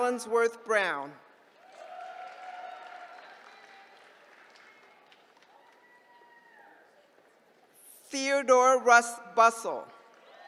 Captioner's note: applause; applause